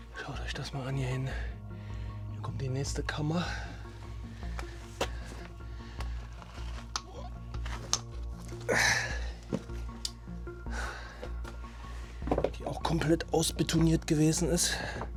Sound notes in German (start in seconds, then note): 8.4 seufzt